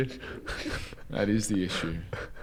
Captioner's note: giggles